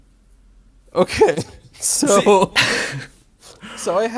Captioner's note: laughs